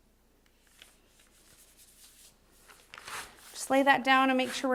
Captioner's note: scratching